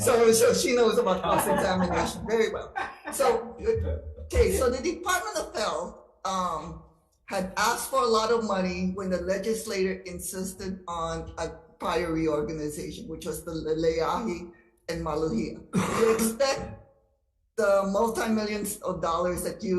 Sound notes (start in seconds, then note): 2.6 chuckling